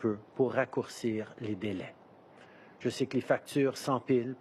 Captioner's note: speaking in French